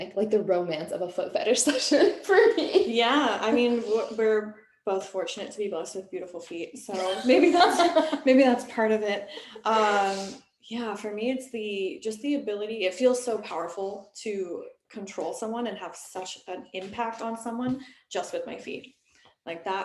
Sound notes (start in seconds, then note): 7.0 laughing